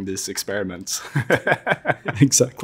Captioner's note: laugh